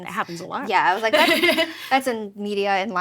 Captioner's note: laughs